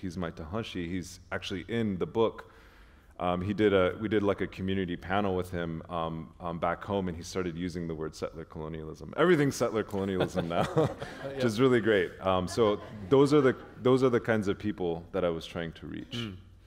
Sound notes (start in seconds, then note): 10.0 chuckle